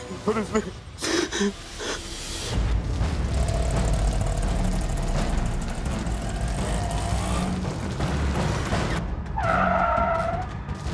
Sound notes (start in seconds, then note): 2.4 rickshaw engine whirring; 9.3 tyres screeching